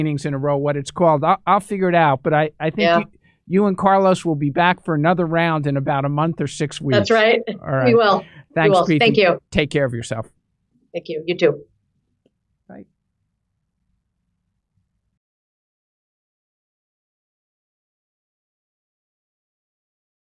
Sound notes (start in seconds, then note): 6.9 laughing